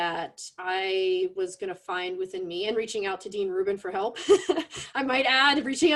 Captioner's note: laughs